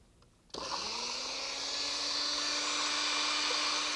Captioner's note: blender whirring